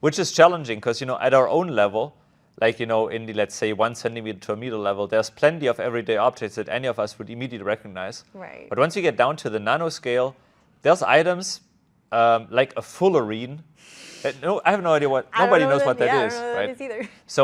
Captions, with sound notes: Which is challenging because, you know, at our own level, like, in the... let's say, one centimeter to a meter level, there's plenty of everyday objects that any of us would immediately recognize. Right. But once you get down to the nano scale, there's items, like a fullerene. (laughs) And no, I have no idea what... nobody knows what that is. I have no idea. I don't know what that is either.